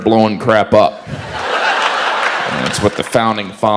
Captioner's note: audience laughs